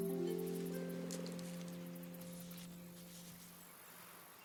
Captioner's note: birds singing; leaves rustling; wind whooshing